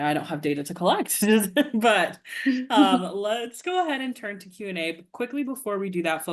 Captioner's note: chuckles